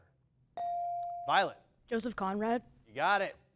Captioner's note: bell dings